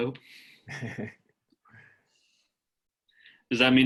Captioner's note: laughter